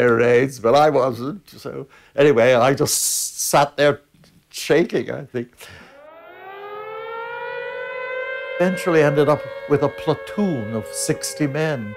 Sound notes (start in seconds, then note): 5.8 sirens blaring